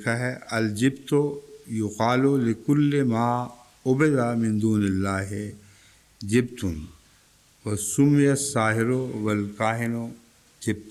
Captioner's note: Arabic